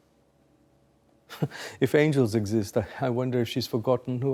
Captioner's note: chuckling